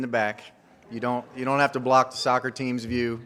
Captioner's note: audience laughs